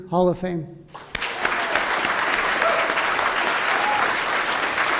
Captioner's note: applause